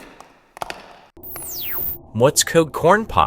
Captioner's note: video feed powers off